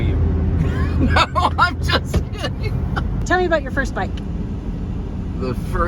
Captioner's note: laugh